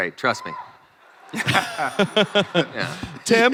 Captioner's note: chris, tim and crowd laugh